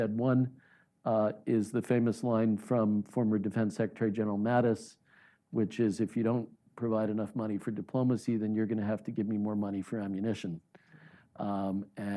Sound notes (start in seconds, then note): none